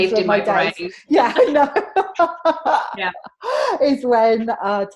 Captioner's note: laughs